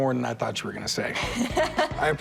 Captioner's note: laughs